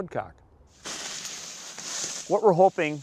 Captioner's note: leaves rustling